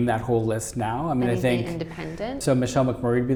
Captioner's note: voice muffled